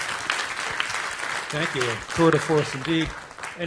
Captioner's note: applause